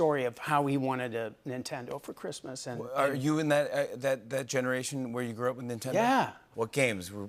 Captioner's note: none